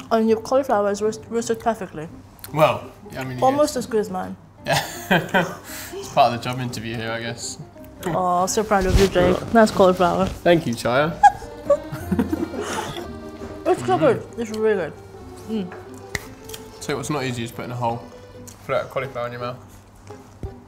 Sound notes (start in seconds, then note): 4.7 laughing; 11.1 laughing